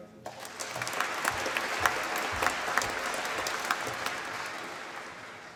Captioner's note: applause